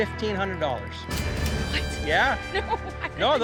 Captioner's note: cash register dings; laughs